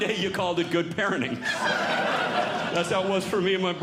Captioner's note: audience Laughing